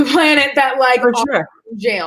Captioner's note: murmurs